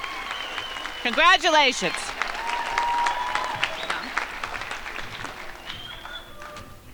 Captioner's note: crowd applauding